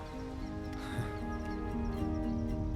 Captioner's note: Daniel suspira